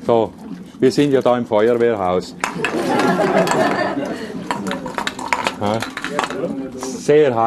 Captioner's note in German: Gelächter